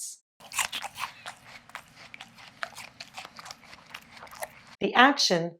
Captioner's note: chewing sound